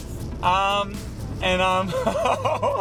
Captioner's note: laughs